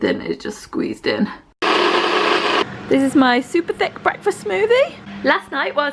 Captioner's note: blender sounds